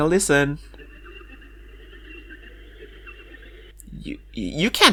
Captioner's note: sounds of animals, possibly saying horrific things